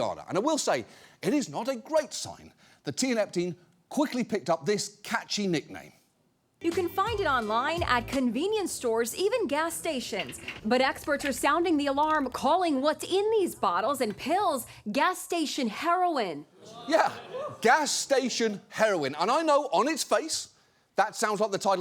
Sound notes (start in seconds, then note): 16.6 audience groans